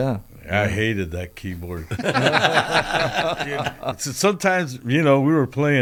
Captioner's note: laughter